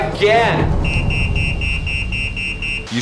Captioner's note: alarm going off